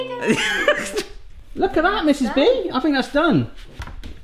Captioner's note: laughs